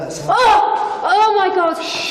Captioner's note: shouts